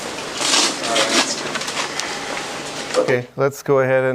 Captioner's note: background chatter